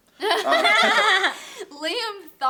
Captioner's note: laughter